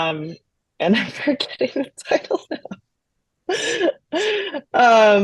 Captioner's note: laughs